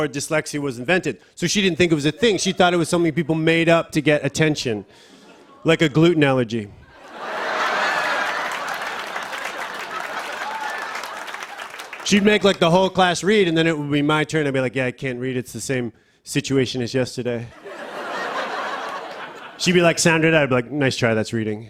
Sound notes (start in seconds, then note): 6.9 laughter and applause; 17.5 laughter